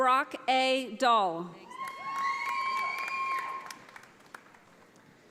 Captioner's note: audience applauding